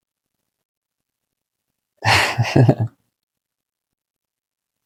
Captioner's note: laughing